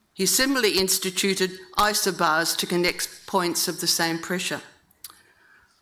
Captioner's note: none